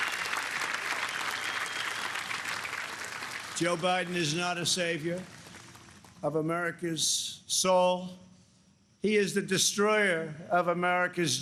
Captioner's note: applause